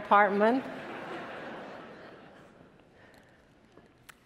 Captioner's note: attendees laughing